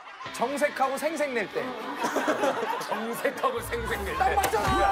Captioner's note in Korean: 껄껄껄